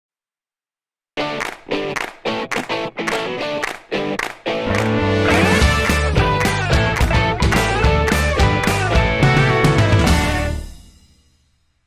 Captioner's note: claps